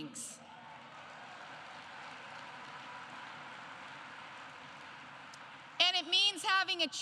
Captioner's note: applause